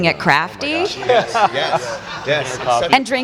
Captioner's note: audience laughs